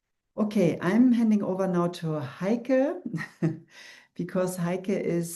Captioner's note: chuckles